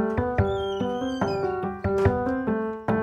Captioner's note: door creaks; door closes